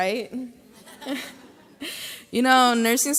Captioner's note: graduates laugh